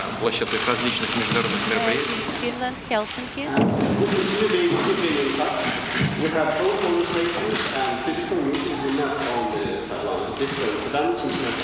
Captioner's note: speaking non-english